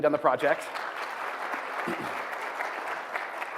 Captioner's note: applause